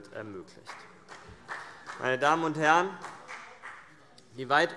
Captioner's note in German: Vereinzelter Beifall CDU und BÜNDNIS 90/DIE GRÜNEN